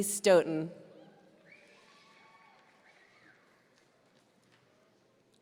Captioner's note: audience cheering